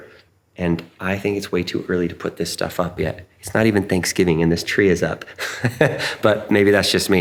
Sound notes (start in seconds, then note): 5.3 laughing